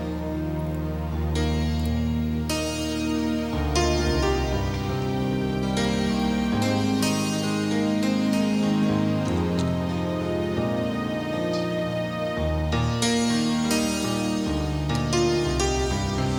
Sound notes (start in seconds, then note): none